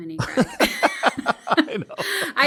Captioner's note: laugh